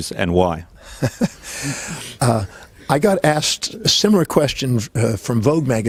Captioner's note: laughs